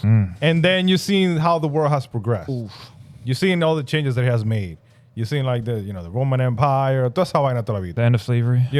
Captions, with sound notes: And then you've seen how the world has progressed. You've seen all the changes that has made. You've seen like the, you know, the Roman Empire. (Speaking In Foreign Language) The end of slavery?